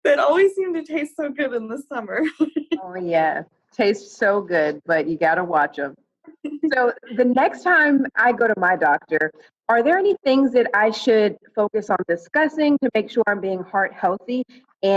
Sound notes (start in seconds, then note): 2.2 laughs